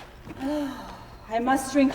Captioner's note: sighs